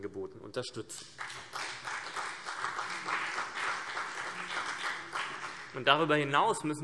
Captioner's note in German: Beifall CDU und BÜNDNIS 90/DIE GRÜNEN